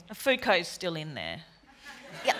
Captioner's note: laughter